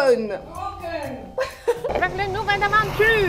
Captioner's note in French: rires